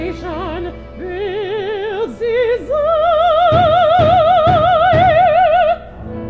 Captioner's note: pounding on door